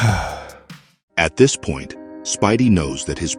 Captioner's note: sigh